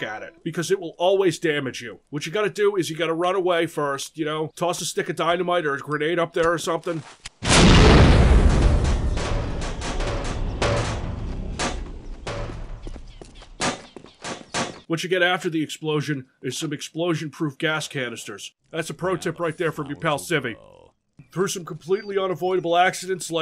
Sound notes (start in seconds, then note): 7.4 boom!; 8.5 sounds of sheet metal hitting things